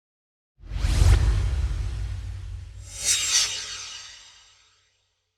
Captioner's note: swoosh